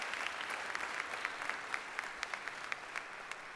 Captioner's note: applause